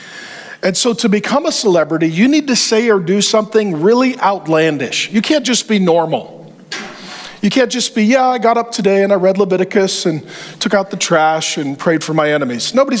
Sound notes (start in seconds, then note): none